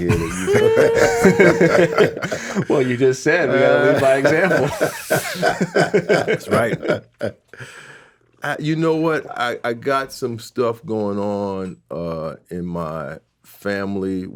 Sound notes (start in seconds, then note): 0.0 everybody laughing; 3.3 laughing; 3.8 chattering